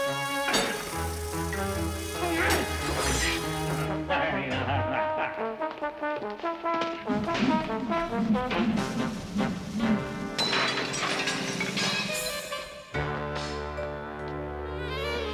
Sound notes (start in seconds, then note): 0.0 clanks; 0.2 tense music; 3.7 chuckles; 5.7 tense music; 9.9 clanking; 12.1 tense music